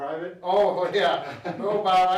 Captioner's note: laughs